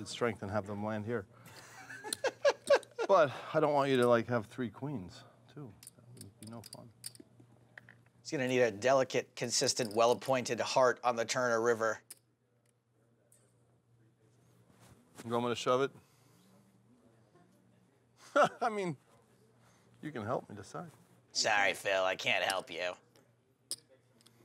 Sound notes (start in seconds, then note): 1.5 laughter